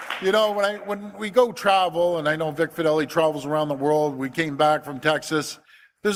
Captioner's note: applause